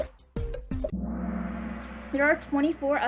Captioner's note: gong